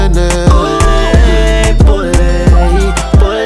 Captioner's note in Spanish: Ohh